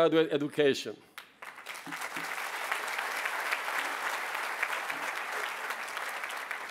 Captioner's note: applause